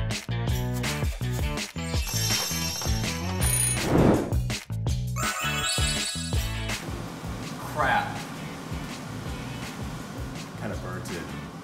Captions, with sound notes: (timer rings) Crap. Kinda burnt it.